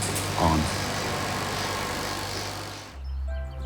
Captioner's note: machine buzzing